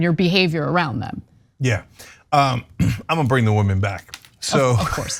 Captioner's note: cough; laugh